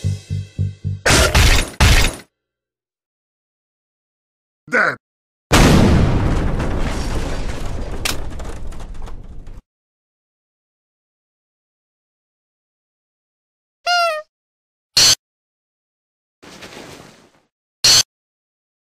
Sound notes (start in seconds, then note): 5.5 noise, explosion; 13.9 boink, gasp, shuffling; 17.6 glitch